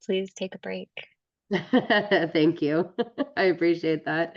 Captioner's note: laughs